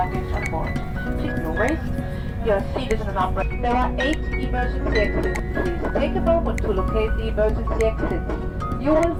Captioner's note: cabin announcement